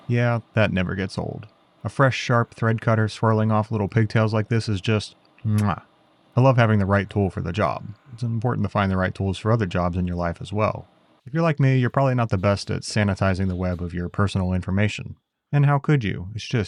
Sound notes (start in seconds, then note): 5.5 mwah